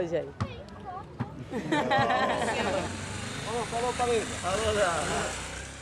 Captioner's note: laughter